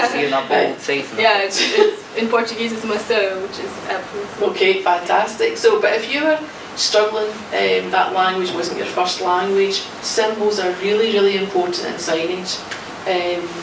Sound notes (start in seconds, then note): 2.6 speaking foreign language